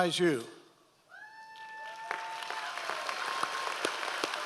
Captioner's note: applauds